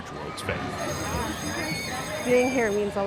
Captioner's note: bell ringing